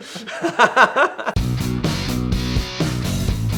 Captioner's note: laughing; lively rock music